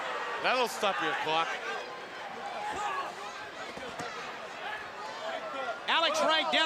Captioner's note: crowd chatter